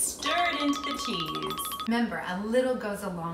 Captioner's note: spoon stirring